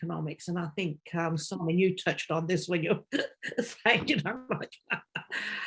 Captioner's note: laughing